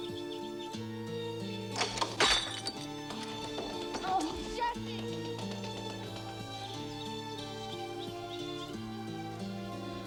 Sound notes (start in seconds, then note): 1.7 clattering